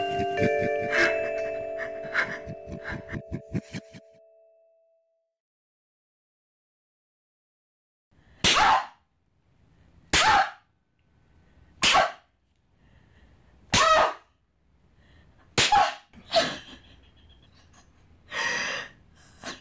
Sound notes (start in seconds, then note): 8.4 slaps; 8.4 yelps; 16.2 sobs